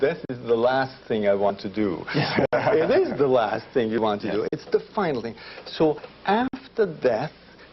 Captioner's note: laughter